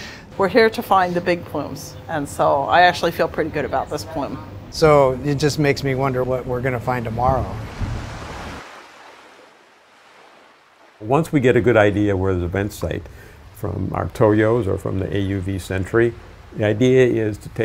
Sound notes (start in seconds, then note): 7.6 waves crash